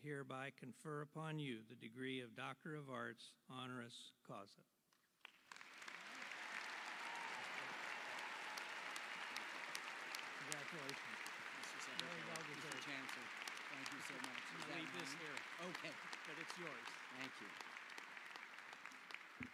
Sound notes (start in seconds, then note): 8.4 applause